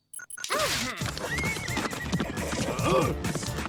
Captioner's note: horse whinnies